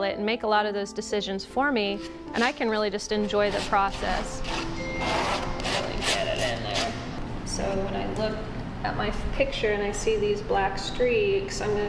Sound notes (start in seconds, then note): 5.6 scrapping